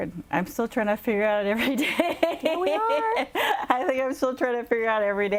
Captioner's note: laughs